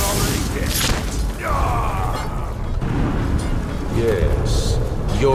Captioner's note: characters grunting